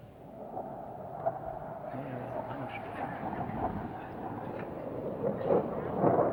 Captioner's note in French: Bruit d'avion